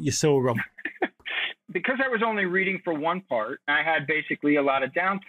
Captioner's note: chuckles